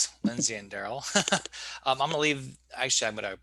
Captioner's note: laughing